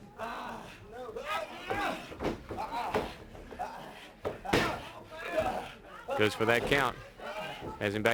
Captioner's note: crowd chatter